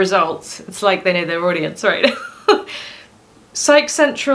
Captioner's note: laughs